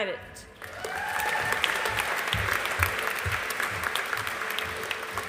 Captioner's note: audience applauding